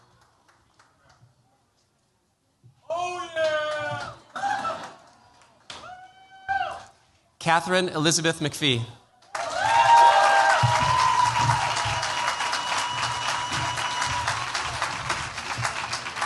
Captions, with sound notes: Katharine Elizabeth McPhie. [CHEERS, APPLAUSE]